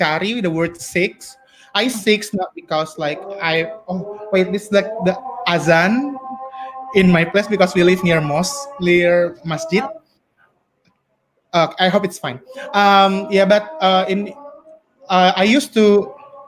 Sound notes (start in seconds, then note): 5.4 speaking in foreign language